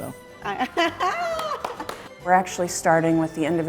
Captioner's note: laughs and applauds